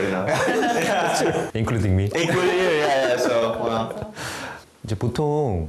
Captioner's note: ha ha ha ha ha